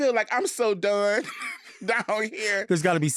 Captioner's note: laughing